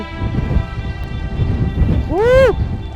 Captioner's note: wind whooshing